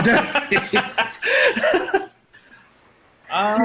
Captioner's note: all laughing